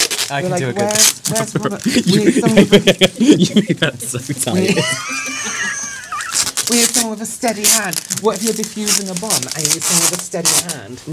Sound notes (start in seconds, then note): 4.6 wheezing Laughter